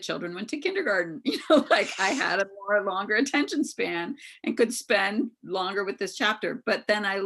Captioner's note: chuckles